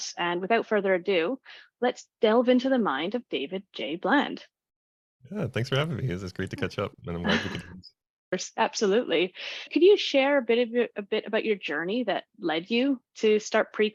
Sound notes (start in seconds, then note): 8.1 laughs